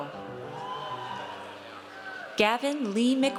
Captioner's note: audience cheers